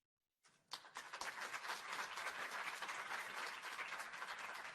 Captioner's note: applause